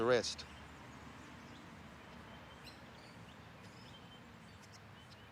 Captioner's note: birds chirping